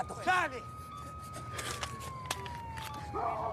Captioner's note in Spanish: sirenas se aproximan; operadora, por radio